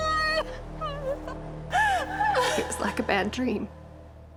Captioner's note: screams; sobbing, wailing